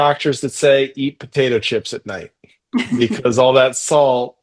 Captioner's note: laughs